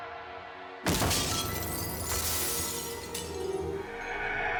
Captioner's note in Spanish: estruendo al caer; estruendo al caer y romper todo